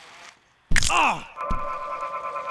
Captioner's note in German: Knochen schnappt; Track warbles